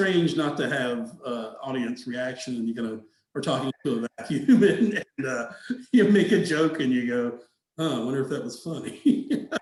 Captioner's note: laughing